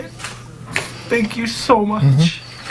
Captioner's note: crying